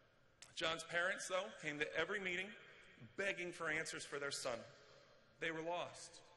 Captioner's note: none